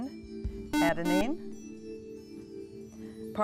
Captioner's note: buzzer